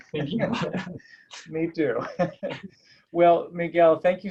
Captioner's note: laugh